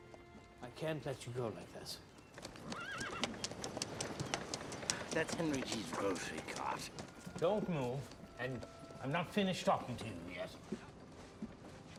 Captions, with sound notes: I can't let you go like this. [neigh] That's Henry G's grocery cart. Don't move. And I'm not finished talking to you yet.